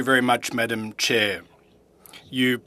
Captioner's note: speaking FRENCH